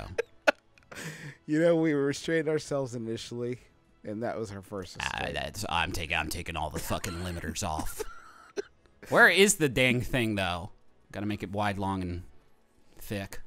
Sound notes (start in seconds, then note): 0.3 laughing; 6.7 chuckling